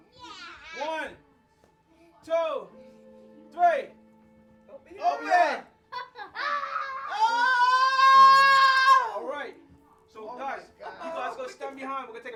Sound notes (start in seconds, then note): 6.7 shouting in excitement